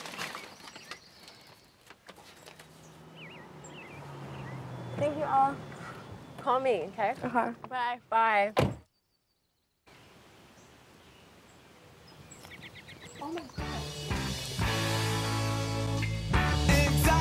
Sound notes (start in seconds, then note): 8.6 birds chirping; 13.6 upbeat music